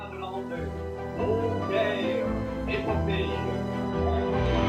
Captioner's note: man speaking French on radio; crowd cheering